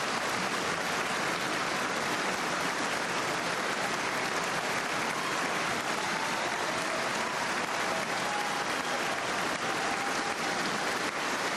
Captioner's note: cheers and applause